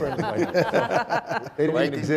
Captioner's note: laughing